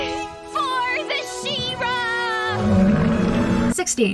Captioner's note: Plant Golem roars in agreement